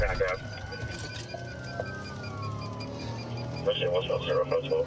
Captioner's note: sirens wailing